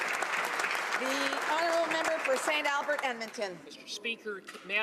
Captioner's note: applause